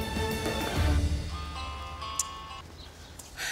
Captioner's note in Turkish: Telefon çalıyor